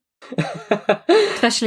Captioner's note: laughs